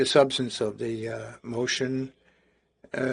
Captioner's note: speaking in French